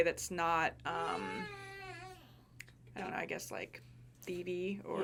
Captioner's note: whimpering